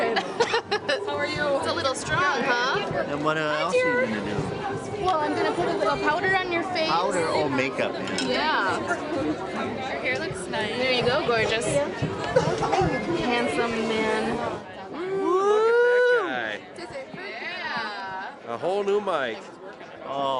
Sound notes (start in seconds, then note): 0.2 laughing; 15.8 voiceover